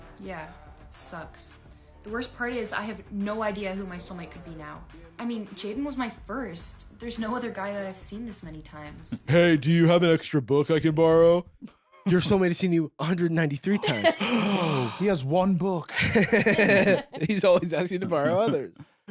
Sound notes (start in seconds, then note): 9.3 deep voice; 13.9 gasps; 15.9 laughs